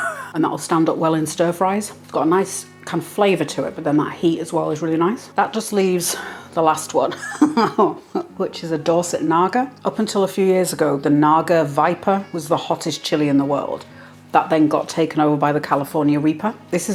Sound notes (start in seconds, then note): 7.1 laugh